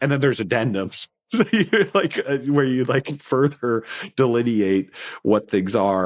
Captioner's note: laughs